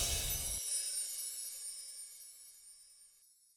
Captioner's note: air whooshes; chimes